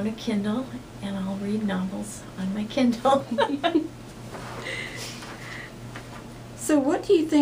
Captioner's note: laughs